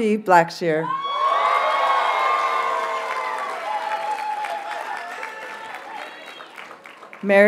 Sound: audience cheers and applauds

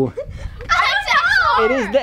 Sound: kids exclaim in shock

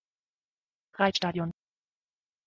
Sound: fast Pronunciation

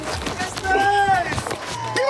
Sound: scuffling; shouting

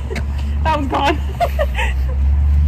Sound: laughing

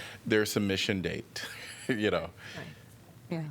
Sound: laughter

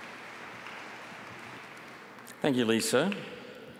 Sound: applause

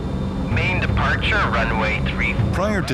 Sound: automated Voice

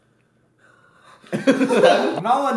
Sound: both giggle

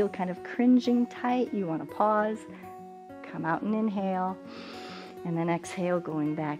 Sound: inhales

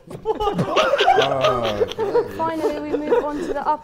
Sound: Sidemen laughing

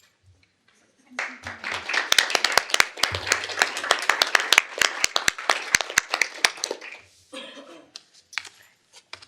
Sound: applause

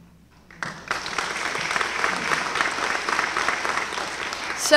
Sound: applause

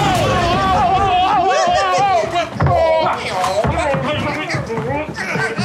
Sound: all shouting and grunting

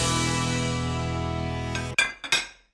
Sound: dishes Clatter

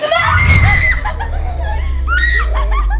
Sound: screaming

